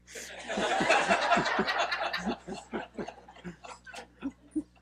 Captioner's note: laughing